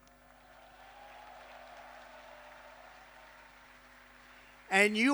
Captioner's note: applause